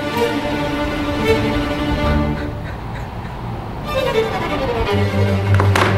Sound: intense crying

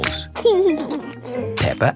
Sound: laughing

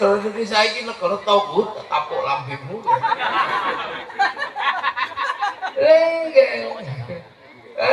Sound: laughs

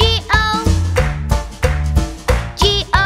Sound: clap

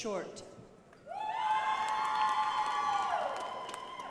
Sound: crowd applauding

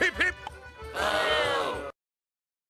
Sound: crowd Booing!

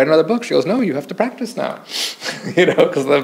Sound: chuckles

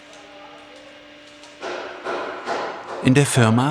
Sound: hammering in the background

